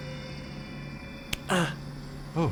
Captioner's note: slap